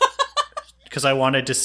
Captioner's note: laughs